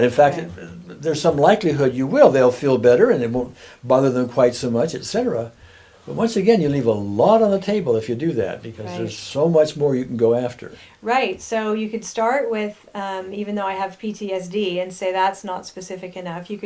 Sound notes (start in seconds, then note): none